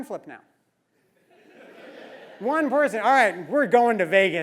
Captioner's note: laugh